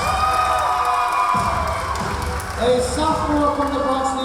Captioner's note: clapping; cheering